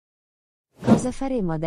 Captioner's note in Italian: FX - Whoosh - 03